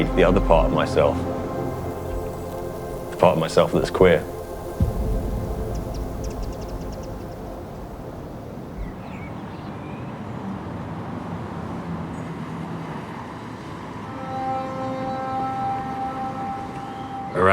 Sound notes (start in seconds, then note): 8.9 bird song and low rumble of traffic; 14.3 a single note resonates